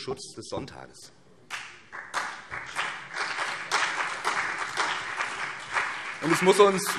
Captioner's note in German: Beifall BÜNDNIS 90/DIE GRÜNEN und CDU